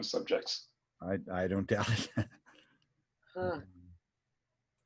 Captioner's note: laughs